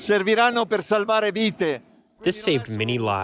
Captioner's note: speaking foreign language